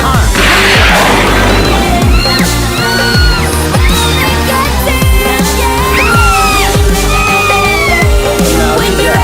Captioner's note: Sweet Polly Screams